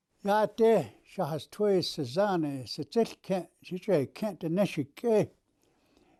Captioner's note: speaking in Native language